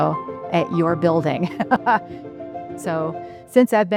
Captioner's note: laughs